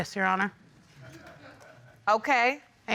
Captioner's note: audience laughing